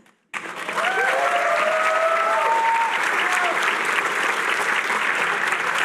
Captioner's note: cheering